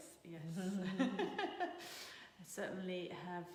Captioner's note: laughing